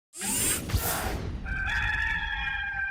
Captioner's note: machine swooshing; cock crowing